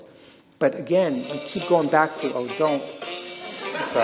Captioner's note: phone ringtone